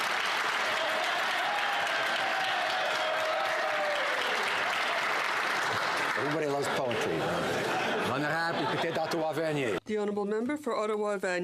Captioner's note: some Applause